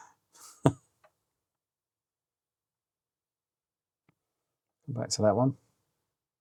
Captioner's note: silence